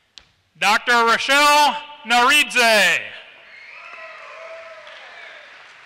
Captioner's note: applause